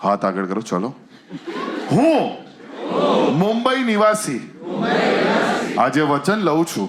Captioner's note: audience unison